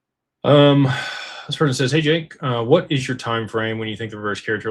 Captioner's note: sighs